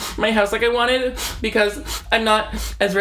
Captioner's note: sniffs